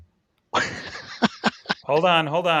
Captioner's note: laughing